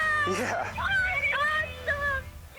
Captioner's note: chuckles